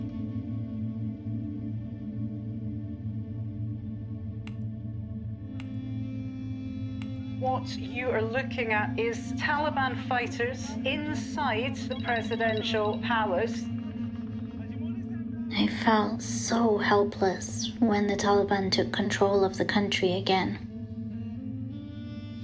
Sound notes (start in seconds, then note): 4.4 click of a mouse